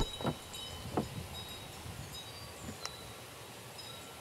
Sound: sea waves, birds chirping

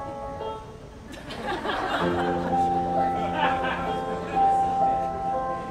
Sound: audience laughing

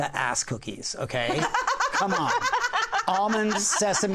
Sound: laughter

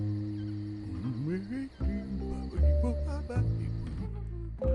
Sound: ghost babbles

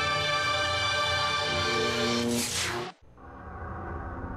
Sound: mechanical sounds; dramatic sounds

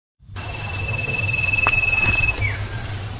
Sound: footsteps

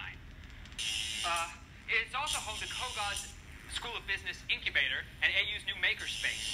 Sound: buzzing

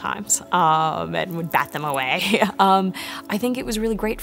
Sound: laughs

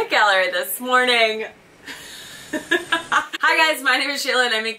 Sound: laughing

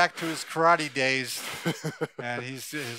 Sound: laughs

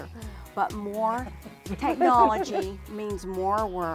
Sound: group laughing

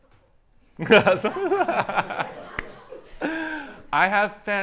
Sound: laughter

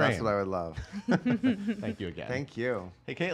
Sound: laughing

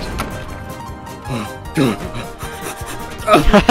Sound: exaggerated panting and breathing; pained grunt into more panting

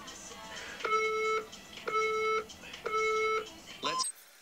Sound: counter down timer from the phone on screen is heard

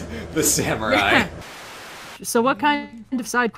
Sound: laughing; Static; glitching

